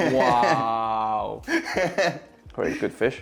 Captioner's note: laughs